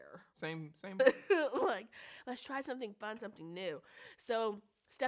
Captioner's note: chuckles